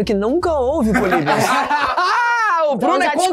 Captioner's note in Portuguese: risadas